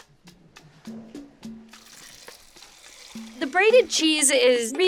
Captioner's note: mid-tempo hand drum music; water pours